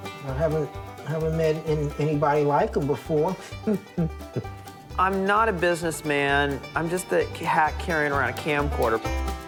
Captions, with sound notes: I haven't met anybody like him before. [laughs] I'm not a businessman, I'm just a hack carrying around a camcorder.